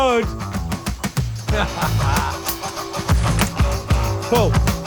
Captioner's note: laughter